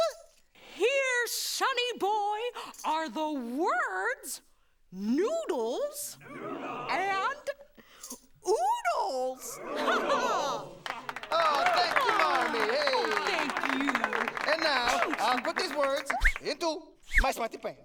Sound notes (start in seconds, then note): 10.7 applause